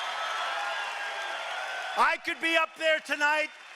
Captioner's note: cheering and applause